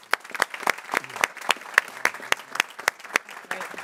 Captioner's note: people clapping